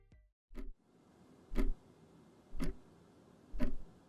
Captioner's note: clock ticking